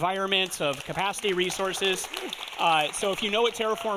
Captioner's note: audience applauding